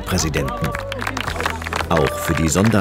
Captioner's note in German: Jubel, Applaus